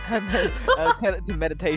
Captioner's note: laughing